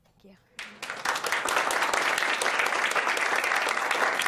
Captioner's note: applause